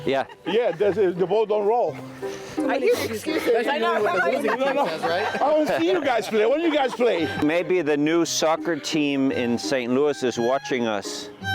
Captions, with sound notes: Yeah, the ball don't roll . ( chatter) (laughing) I wanna see you guys play! Maybe the new soccer team in St. Louis is watching us.